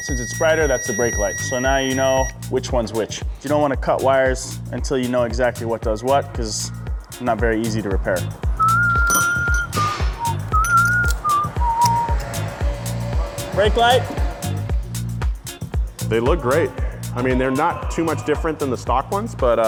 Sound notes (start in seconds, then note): 8.6 whistles